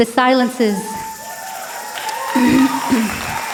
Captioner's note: applause and cheers